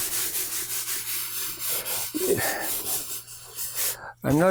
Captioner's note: sanding